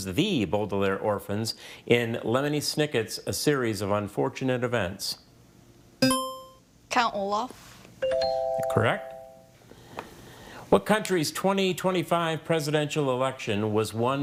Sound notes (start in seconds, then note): 6.0 buzzer chimes; 8.1 scoreboard dings